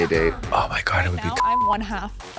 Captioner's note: beep